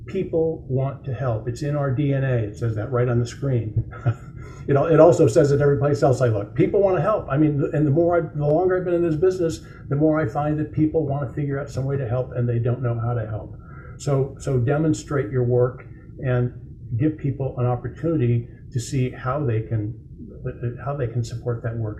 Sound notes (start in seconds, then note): 3.6 chuckles